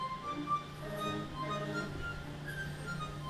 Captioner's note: boat honks horn